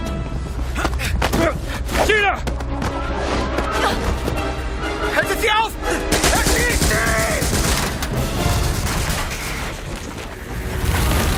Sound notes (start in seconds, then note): 5.2 in German